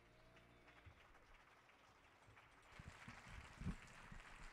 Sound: audience applauding

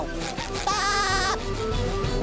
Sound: laughing

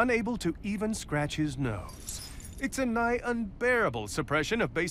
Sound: chains clink

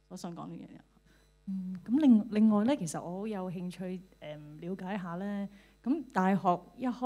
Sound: Cantonese

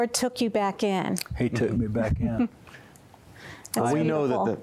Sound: giggling

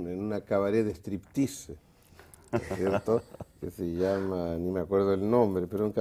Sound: ríen

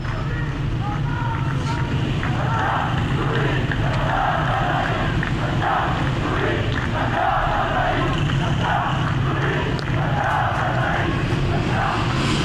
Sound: chanting

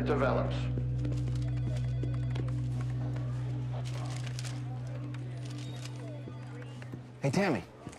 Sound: telephones ringing

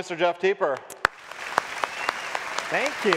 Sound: audience claps

